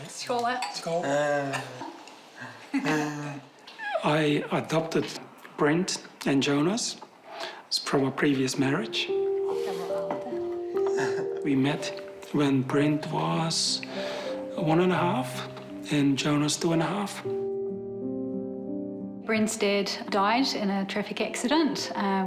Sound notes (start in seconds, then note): 2.6 chuckle; 9.7 speaks flemish; 10.8 chuckles